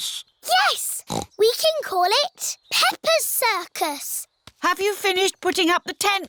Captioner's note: snorts